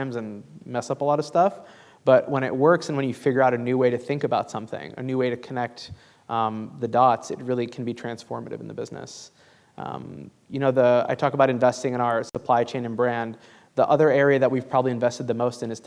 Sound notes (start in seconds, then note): none